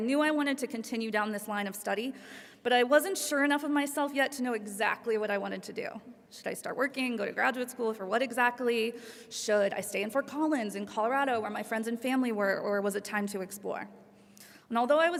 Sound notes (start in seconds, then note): none